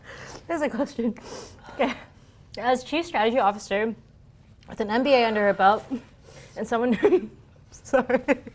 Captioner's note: laughing